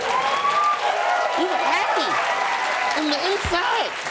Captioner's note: cheering, applause